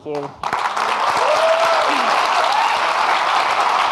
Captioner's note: audience clapping